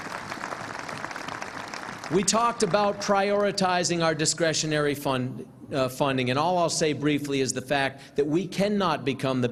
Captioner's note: applause